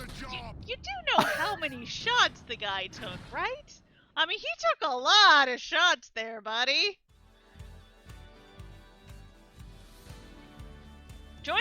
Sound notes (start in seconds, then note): 1.1 laughs; 6.9 outro Music